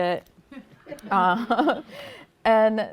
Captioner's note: laughter